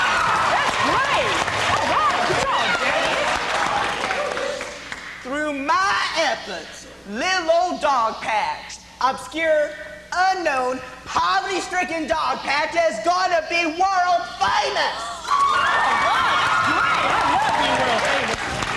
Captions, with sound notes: Well, all right. That's great. Good job, Jackius Through my efforts lil' old Dogpatch, obscure, unknown, poverty stricken Dogpatch is gonna be world famous! (Applause) All right.. That's great. I'd love being world famous.